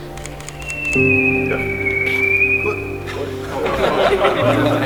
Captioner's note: everyone chuckles; camera clicks; everyone laughs